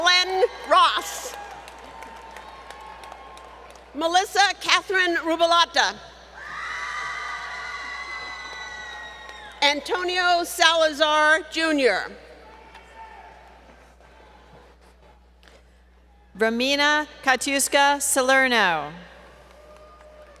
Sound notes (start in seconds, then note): 6.4 crowd Cheering